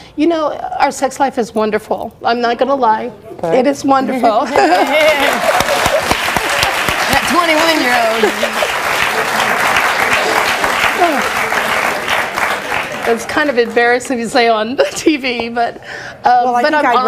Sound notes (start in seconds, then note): 4.9 audience applauds; 8.7 audience cheers; 9.8 laughs